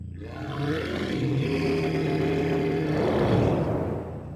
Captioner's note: creature growling